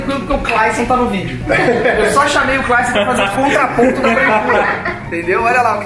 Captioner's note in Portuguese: risadas